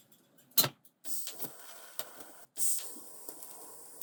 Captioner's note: welding hisses and pops